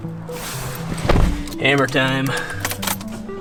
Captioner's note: car door shuts